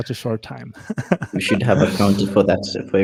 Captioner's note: group laughs